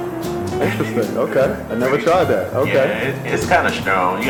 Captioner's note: voiceover